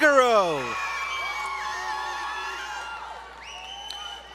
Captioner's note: crowd Cheering